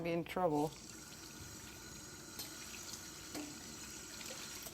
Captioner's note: water running